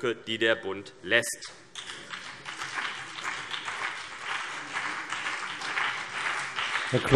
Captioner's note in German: Beifall CDU und BÜNDNIS 90/DIE GRÜNEN